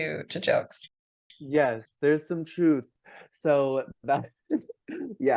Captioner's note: laughs